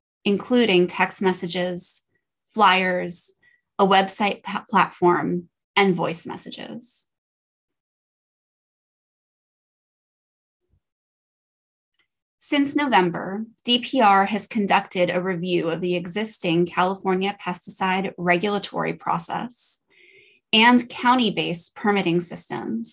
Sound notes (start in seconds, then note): 6.9 silence